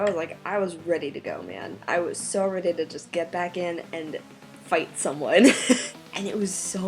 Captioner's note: laughs